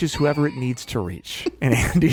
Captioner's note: laughing